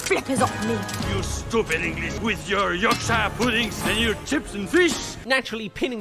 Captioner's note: hops